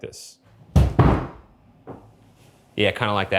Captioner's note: couch bumps